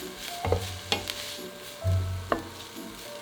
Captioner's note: spatula scraping